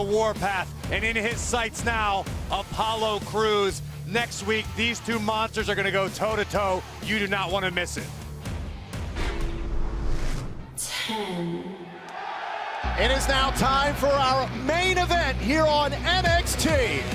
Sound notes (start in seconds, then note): 11.8 cheers and applause